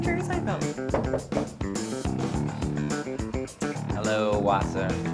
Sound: knock on door

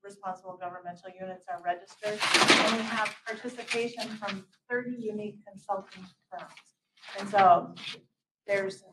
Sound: papers drop; papers rustle; paper rustle

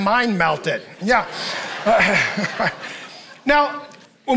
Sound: congregation laughing

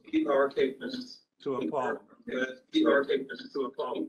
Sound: echoes

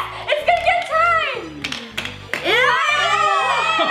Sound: shouting

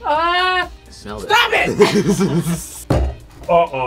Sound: laughs

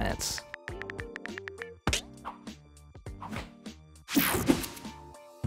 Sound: phone buttons clicking

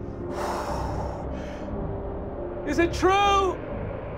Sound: blowing

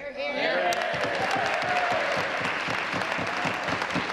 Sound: applause

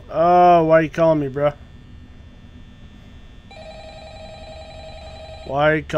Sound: the annoying phone ringing in the background

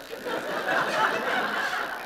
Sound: laughter

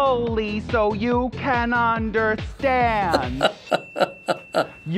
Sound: laughing

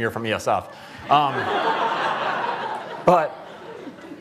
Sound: laughter

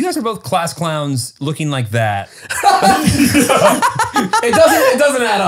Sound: all laughing

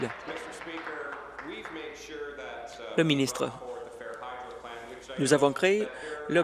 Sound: applause

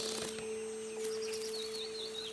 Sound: wings flutter

